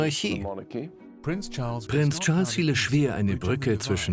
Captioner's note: voiceover